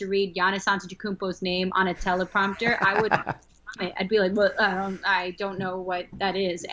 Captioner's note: chuckle